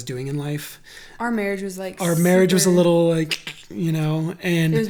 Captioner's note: makes cracking noise